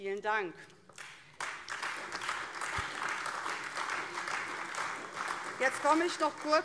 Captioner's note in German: Beifall AfD